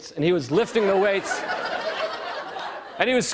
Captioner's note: laughter